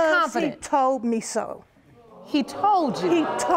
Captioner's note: audience exclaims